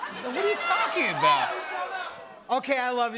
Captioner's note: audience shouting